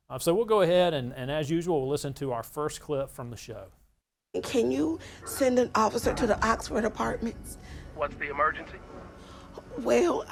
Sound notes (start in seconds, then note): 5.6 person slamming